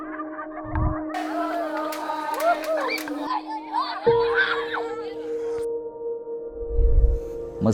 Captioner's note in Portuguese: Cânticos e risadas brincalhonas ao fundo